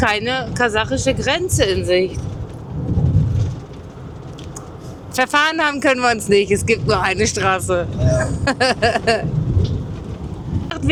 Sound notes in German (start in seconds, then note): 8.0 gelächter